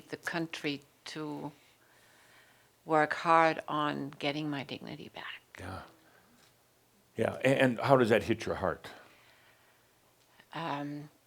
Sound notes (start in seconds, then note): none